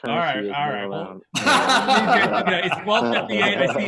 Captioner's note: laughs